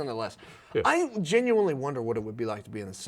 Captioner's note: laughing